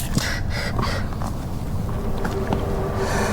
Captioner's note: Miles pants